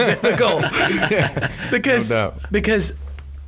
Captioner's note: laughing